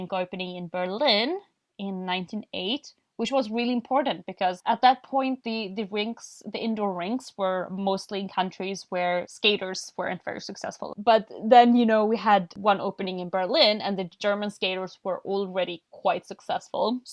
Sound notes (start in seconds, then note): none